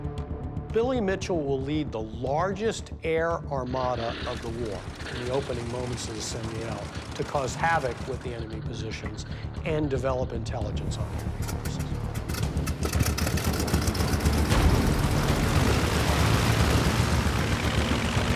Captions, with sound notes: Billy Mitchell will lead the largest air armada of the war in the opening moments of the St. Mihiel to cause havoc with the enemy positions and develop intelligence on the enemy forces. [airplane engine roaring to life]